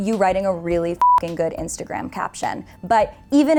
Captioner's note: beep